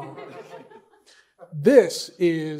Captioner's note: laughter